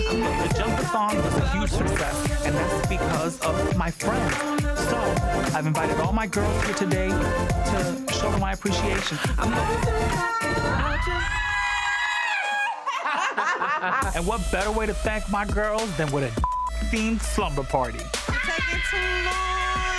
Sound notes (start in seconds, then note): 8.9 upbeat music; 10.2 cheering and laughing; 16.4 beep